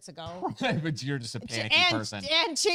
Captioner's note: mumbles